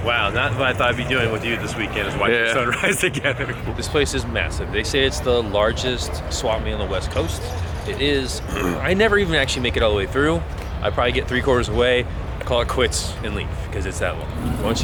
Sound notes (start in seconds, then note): 2.6 laughing; 8.4 clearing throat